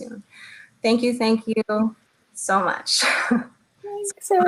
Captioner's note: chuckles